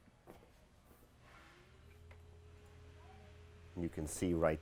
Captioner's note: engine humming